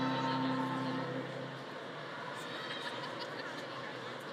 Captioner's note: audience chattering